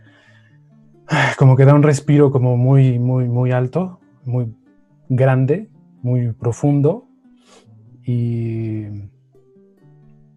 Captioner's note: sighs